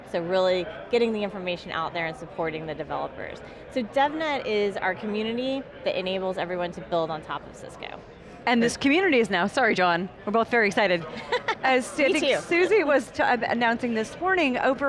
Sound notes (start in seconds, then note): 11.1 laughing